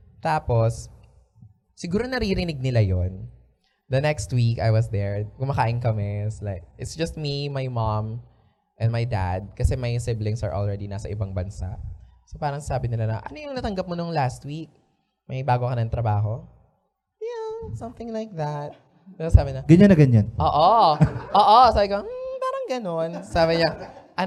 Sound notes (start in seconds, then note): 17.0 high-pithced voice